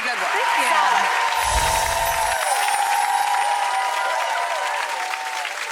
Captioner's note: audience applauds